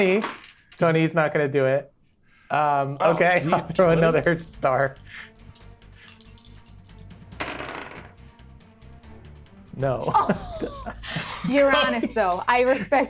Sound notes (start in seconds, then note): 6.0 dice rattling; 10.0 laughs